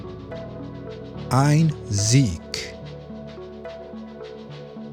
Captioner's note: german